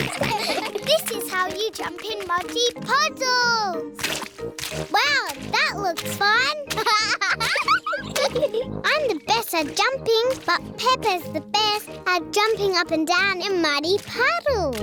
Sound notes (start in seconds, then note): 6.7 laughs